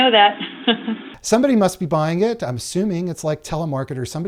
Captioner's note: laughter